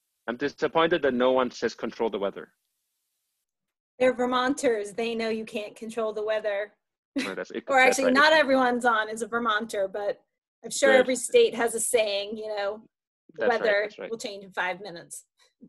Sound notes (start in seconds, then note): 7.2 laughs